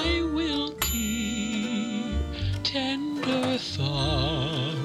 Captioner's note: oven Dings